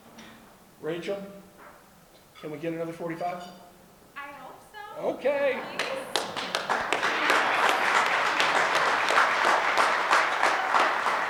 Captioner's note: audience applause